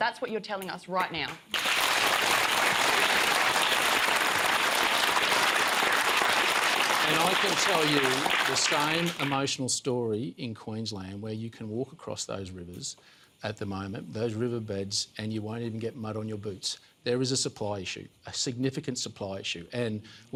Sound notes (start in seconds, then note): 2.1 applause